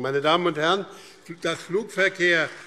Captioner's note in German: Beifall BÜNDNIS 90/DIE GRÜNEN und vereinzelt CDU